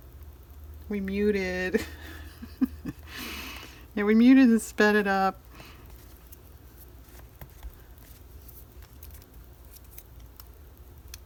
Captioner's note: laughs